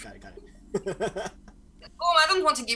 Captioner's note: laughs